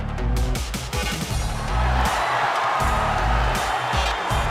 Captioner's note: crowd cheering